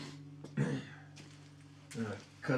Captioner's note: Abe clears throat